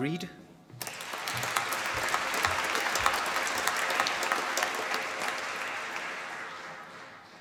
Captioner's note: applause